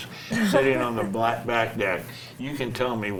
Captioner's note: laughs